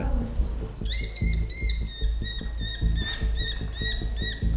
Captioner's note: bat squealing